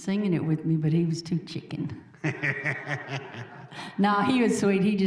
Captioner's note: audience laughing